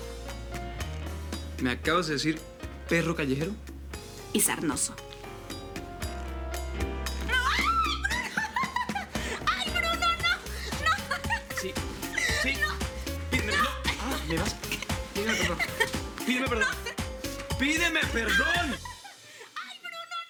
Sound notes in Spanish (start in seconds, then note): 7.3 Risas; 7.4 Gritos